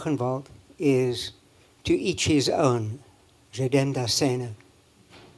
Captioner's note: german